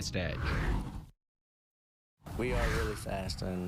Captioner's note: air whooshes